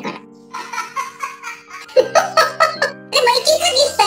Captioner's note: laughs